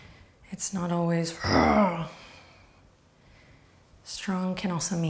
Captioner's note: growls